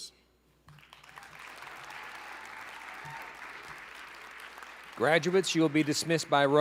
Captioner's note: applause, cheering